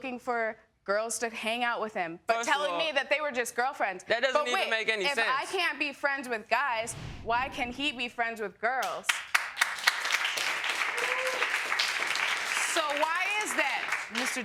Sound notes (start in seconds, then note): 8.3 audience member whooping; 8.8 audience clapping